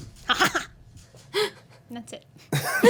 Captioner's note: laughs